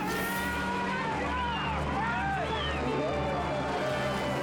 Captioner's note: people shouting